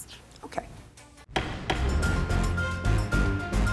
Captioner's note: dramatic upbeat music; judge bangs gavel